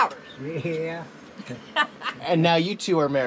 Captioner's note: laughing